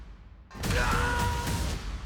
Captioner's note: shouts